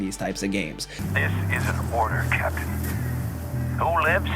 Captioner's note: man On Radio